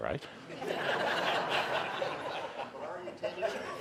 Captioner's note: audience laughing